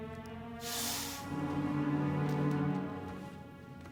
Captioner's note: snake hisses